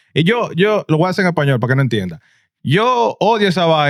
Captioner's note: speaking In Foreign Language